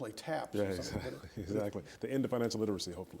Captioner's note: laughs